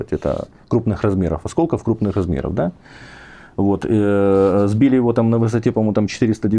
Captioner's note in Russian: фыркает